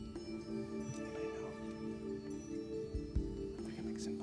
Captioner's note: whispering